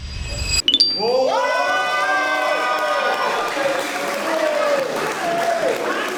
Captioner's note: cheering